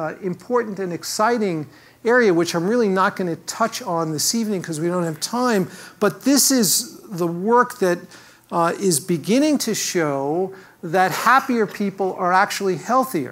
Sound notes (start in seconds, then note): none